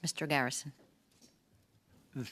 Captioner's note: speaking French